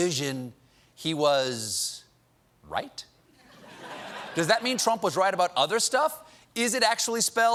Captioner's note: laughter